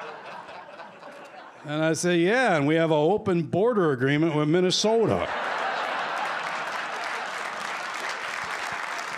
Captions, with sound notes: And I say, "Yeah, and we have a open border agreement with Minnesota." [laughter]